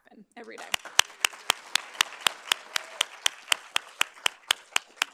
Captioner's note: audience applauding